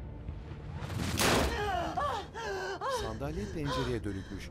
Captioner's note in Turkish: Bağırma sesi; Nefes sesi